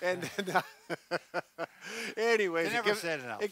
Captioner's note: laughs